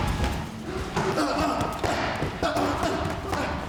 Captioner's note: grunting